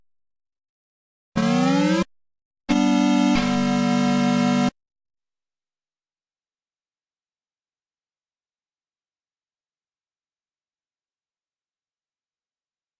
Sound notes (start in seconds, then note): 1.1 8-bit console startup music; 8.4 silence